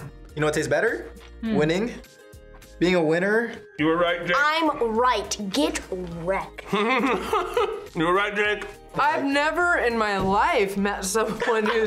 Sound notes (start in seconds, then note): 6.7 laughs